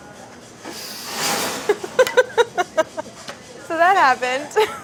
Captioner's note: laughing